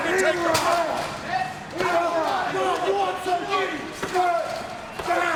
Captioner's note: wrestlers grunting